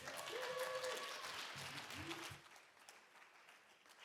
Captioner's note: applause